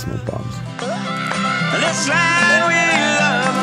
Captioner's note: cheers